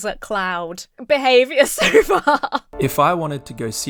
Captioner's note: laughs